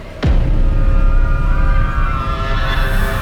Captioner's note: people's screams and the sound of fire